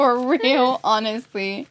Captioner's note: laughs